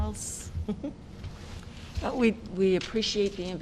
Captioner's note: laughter